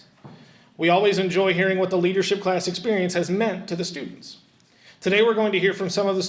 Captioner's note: none